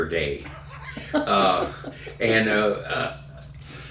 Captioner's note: laughing